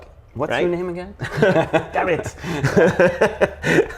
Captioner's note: laugh